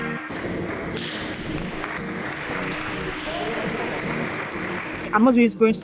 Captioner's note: applause